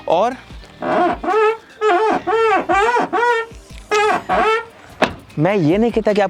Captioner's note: car door creaking sound